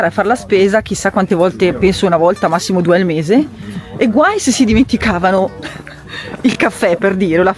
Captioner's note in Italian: risate